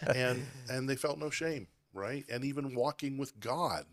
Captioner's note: laughing